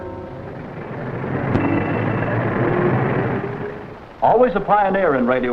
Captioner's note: dramatic music concludes; engines rumbling